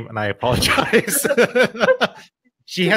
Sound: both laughing

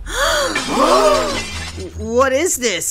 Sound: Nabla gasps; everyone gasps

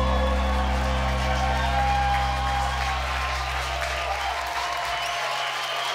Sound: applause

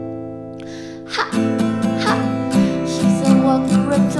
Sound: ha, ha

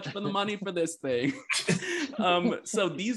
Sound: all laugh

